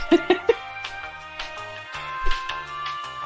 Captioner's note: laughter